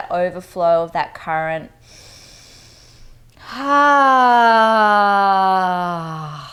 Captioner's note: inhales breath